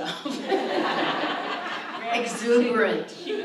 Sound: audience laughs

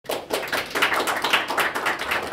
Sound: clapping

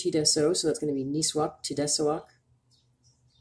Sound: speaking Abenaki Language

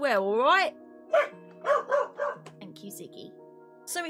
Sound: ziggy barking

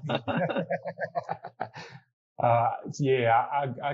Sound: laughter

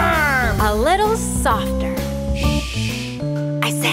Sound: shushing

